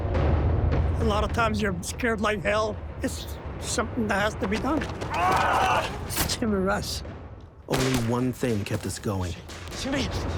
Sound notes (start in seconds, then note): 5.0 screaming